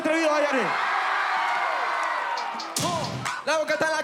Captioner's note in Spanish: gritan